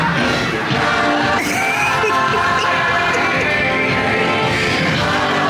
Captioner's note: upbeat music; laughing